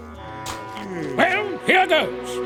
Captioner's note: spitting